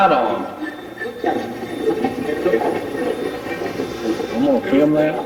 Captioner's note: Steve's Box chatters